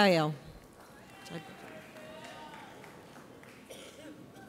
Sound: audience applauds

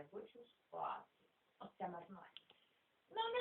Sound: quietly

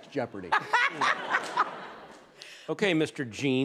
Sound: laughs

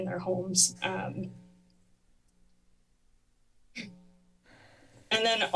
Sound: pause

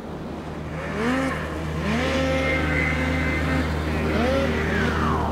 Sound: engines revving

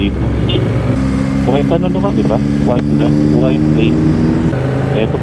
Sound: distorted audio

